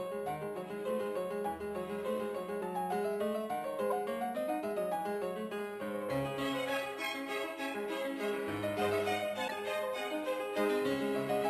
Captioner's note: speaking FRENCH